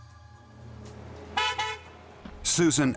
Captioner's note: horn honks